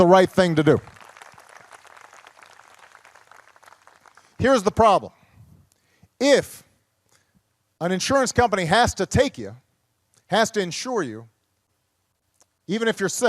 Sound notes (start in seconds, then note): 0.3 applause